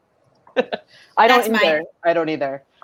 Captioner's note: laughs